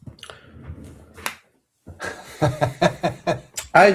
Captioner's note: laughter